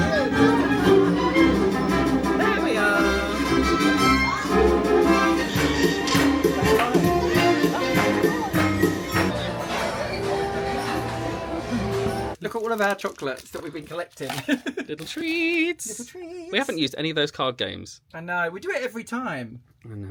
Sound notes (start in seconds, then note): 0.0 laughing; 0.2 bright music; 4.5 bright music; 14.4 laughing